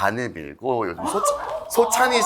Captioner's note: shocked